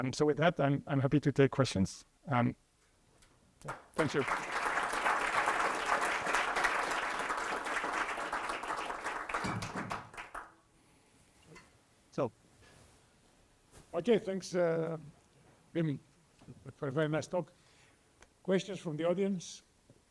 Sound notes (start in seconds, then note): 3.6 applause